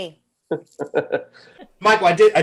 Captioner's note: Jordan laughs